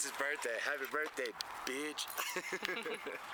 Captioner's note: laughter